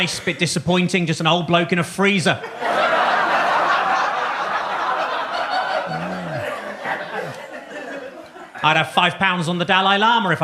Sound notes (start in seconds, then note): 2.4 audience laughs